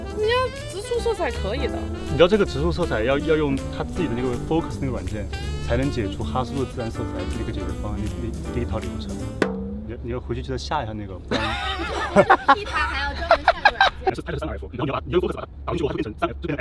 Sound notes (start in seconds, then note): 11.3 laughing